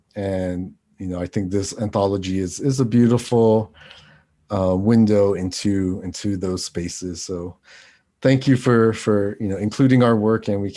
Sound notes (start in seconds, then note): none